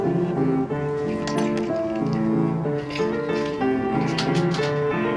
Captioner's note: gate closing; opening door